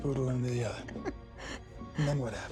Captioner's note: Andy chuckles